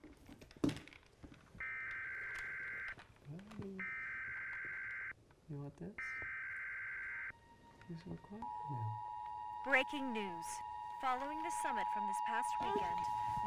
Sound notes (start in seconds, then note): 1.6 warning buzzer sounding